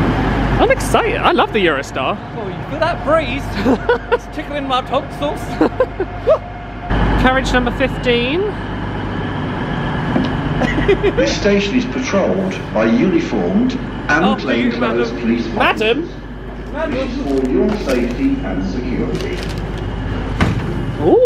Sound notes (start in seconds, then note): 5.4 laughs; 10.6 laughs